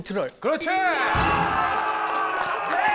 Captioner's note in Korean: 딩동댕 소리